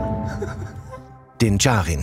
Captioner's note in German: Kichern